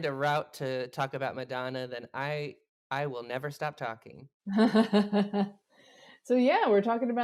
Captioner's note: laughs